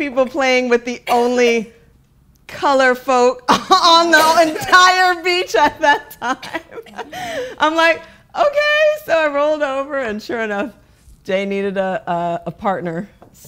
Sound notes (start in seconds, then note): 5.3 laughing